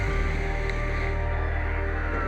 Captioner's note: intense music; siren blaring